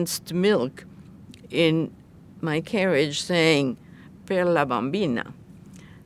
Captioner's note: italian